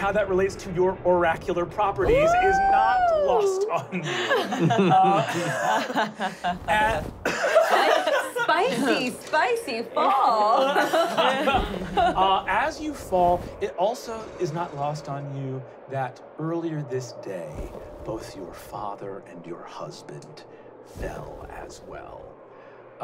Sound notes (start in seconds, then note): 3.6 laughing